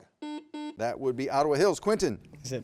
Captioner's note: buzzer beeps